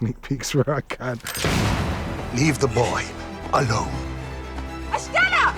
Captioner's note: gunshot